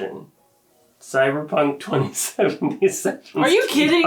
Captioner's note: laughs